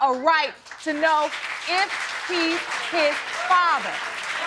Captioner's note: audience cheering